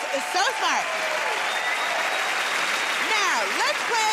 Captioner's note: cheers and applause